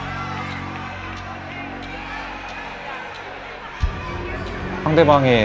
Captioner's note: 박수